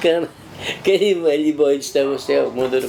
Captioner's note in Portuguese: fala risonha